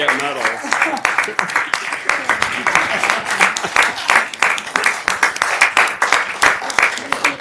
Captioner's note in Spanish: risas